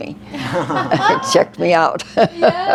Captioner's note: laughing